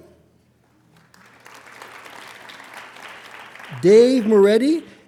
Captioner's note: applauding